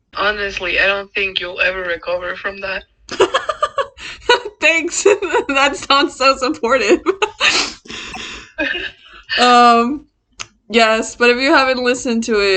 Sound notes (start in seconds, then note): 3.5 laughs; 7.4 continues laughing, joins in